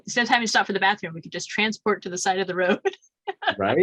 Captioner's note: chuckles